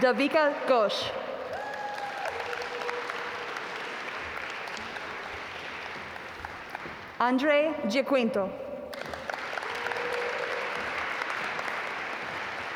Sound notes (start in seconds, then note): 1.4 audience applaud; 8.9 audience applaud